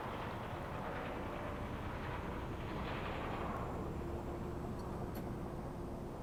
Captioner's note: distant traffic rumbling